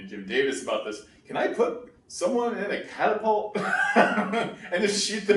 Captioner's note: laughs